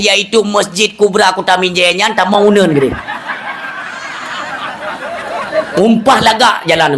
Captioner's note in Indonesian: tertawa